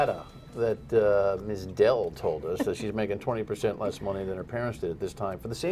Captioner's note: laughter